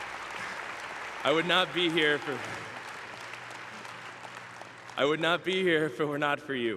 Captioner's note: applause